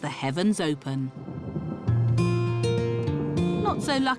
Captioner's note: thunder rumbles